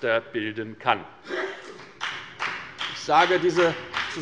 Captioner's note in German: Beifall bei der FDP